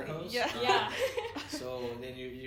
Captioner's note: laughs